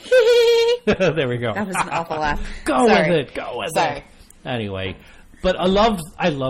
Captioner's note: DJ laughs